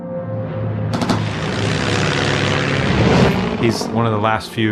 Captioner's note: plane engine rumbling